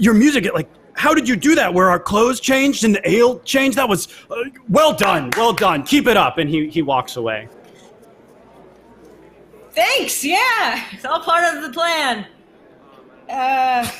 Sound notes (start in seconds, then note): 5.0 claps